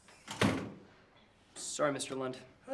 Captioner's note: door thuds